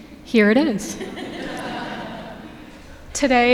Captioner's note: audience laughing